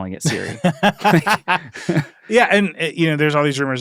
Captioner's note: laughs